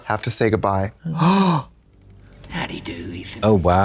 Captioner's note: Trixie gasps